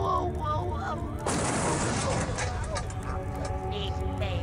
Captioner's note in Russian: звук падающей клетки